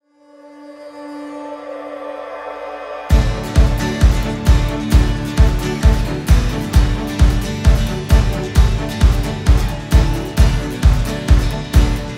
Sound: applause

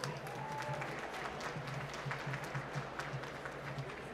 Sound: applause

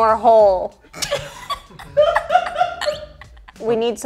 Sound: girls laughing

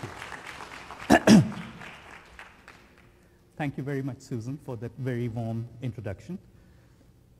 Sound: applause

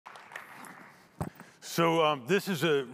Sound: audience applauding

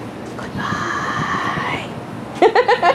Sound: whispered; cackling of a madwoman who thinks her creepy jokes are funny

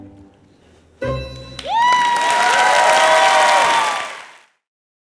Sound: audience applauds and cheers

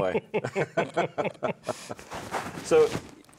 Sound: everyone laughing

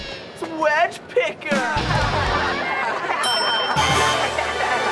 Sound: laughing

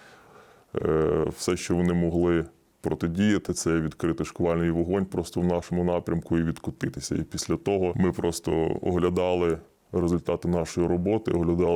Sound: russian

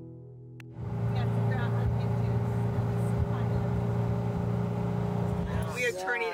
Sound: car engine roaring

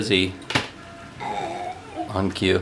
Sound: laughing; burping

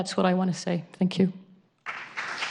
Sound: applause

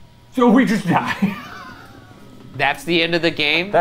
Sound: laughs

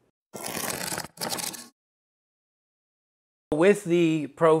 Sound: cardboard ripping

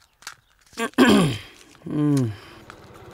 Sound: clears throat

